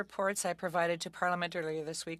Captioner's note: speaking french